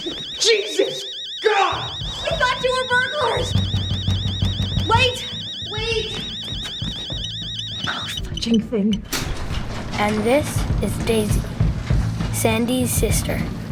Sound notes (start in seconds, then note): 3.4 banging; 6.8 alarm blaring